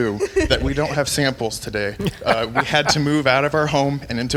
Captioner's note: laughing